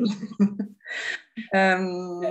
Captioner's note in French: rires